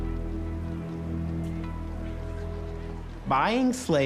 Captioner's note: people chattering